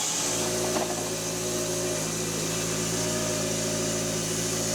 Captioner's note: machine rumbling